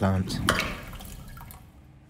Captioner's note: heavy rushing water; plink